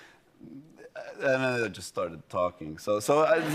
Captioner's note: laughter